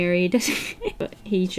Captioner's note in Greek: Γέλια